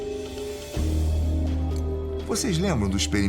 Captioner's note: sound of seeds falling on the glass